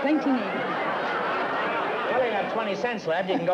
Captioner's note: laughter